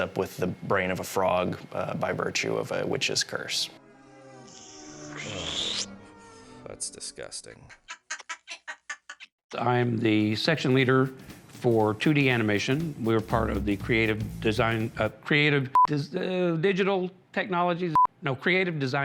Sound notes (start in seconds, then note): 3.7 comical music; 7.6 cackle; 15.5 beep; 17.7 beep